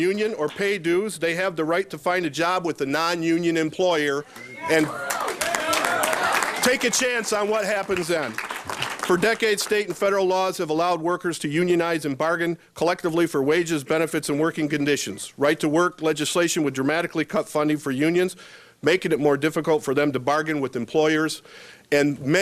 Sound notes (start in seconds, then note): 9.2 applauding